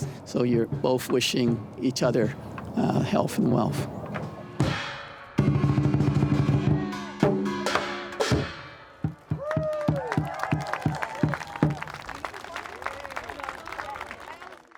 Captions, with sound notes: So you're both wishing each other health and wealth. [Drumming Ends] [Applause]